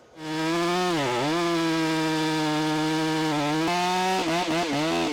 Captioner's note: chainsaw buzzing